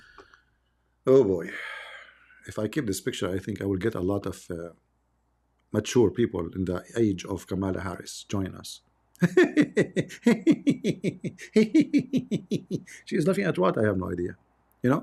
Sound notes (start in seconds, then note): 9.2 Ketawa